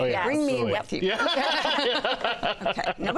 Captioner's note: laughter